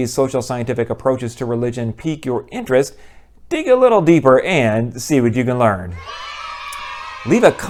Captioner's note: kids cheering